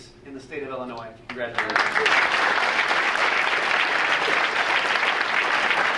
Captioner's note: audience applauding